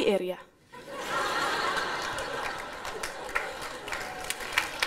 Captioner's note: applause